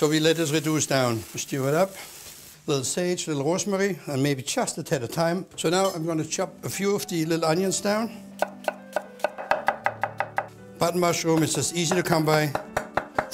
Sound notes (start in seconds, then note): 8.4 chopping